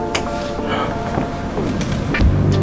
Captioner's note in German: hörbares Keuchen